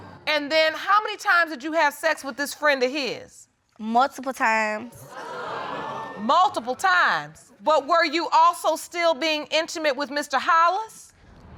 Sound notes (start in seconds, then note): 5.3 audience exclaim